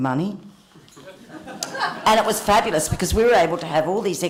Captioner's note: laughter